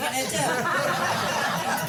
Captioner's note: laughter